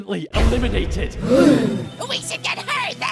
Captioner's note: everyone gasps